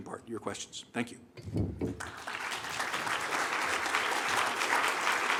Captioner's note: applause